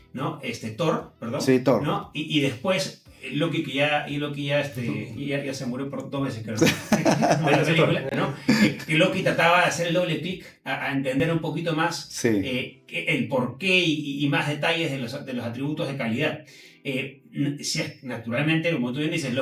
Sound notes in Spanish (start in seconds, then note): 6.6 risas